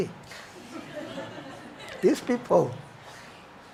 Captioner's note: audience chuckles